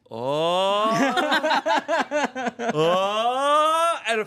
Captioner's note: everyone laughs